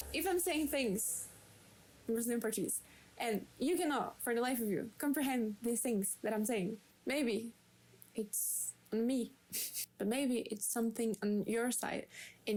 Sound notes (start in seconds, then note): 1.9 in Brazilian Portuguese